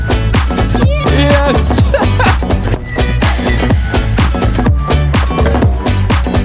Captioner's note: laughs